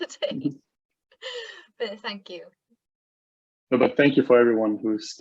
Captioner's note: laughter